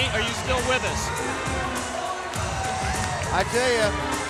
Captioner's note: crowd cheering